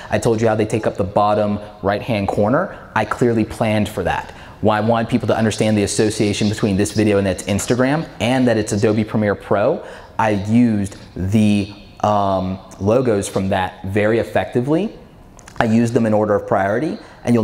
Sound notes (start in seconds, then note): none